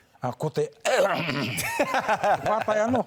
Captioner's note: cough